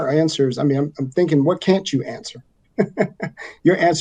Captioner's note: chuckles